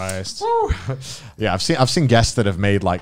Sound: exhales

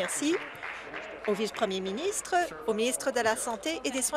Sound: applause

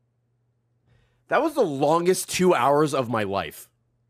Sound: none

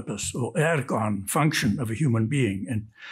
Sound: speaks in Greek

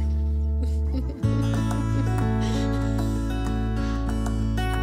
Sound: woman laughing

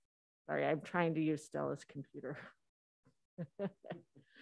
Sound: laughs

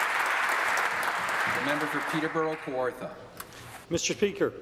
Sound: applause

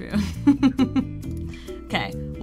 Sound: laughs

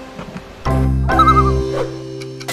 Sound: loon call

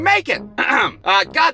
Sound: ahem!

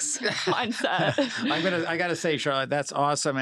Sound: laugh

